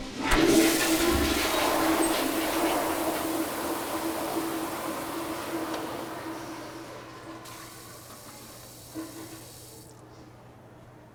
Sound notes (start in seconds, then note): 0.2 toilet flushes; 7.5 faucet water flows, stops